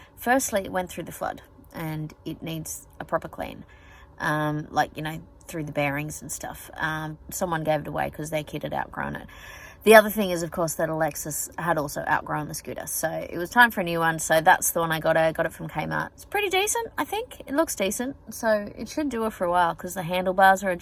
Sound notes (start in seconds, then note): none